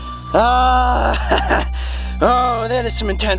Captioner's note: chuckle